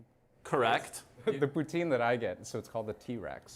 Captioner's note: laughter